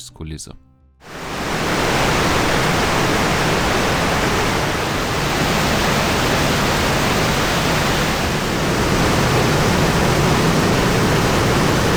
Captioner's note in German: Lautes Wasserrauschen